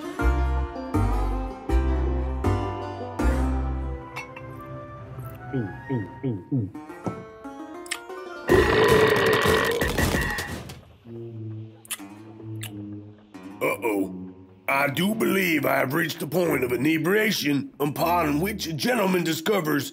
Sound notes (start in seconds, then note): 8.4 belching noise